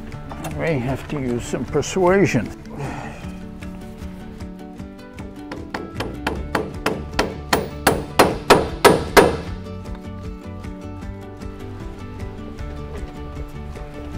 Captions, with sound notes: All right, have to use some persuasion. [hammering]